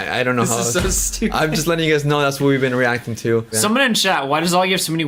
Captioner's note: laughs